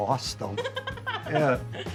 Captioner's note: laughing